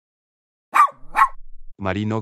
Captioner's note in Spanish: FX - Dog Bark - 01